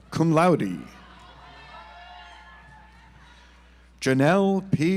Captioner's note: audience applauds